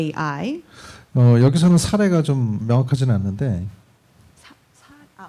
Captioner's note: speaking korean